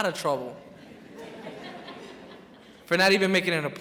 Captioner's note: crowd laughs